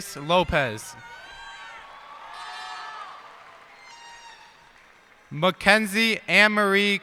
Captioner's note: cheers and applause